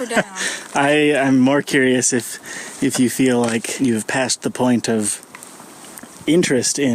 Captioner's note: laughing; laughs